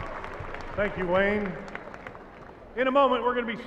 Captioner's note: applauding